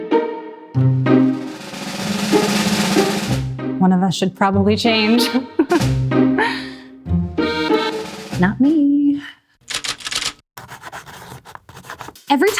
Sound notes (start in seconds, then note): 0.0 bright contemplative music; 5.2 laughs; 9.6 typewriter clacking; 10.6 pencil scribbling